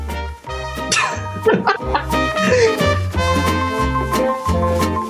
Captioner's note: Michael laughing